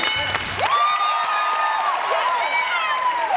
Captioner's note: cheering and applause